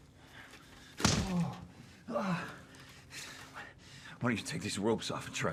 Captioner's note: hand slaps